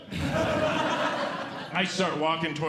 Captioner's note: audience Laughing